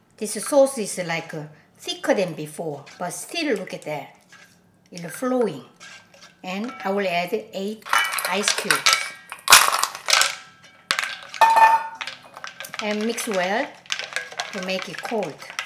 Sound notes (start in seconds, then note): none